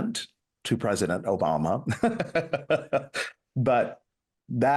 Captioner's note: laughs